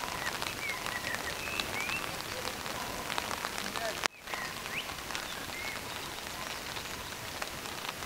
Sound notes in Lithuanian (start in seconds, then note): 1.6 Plojimai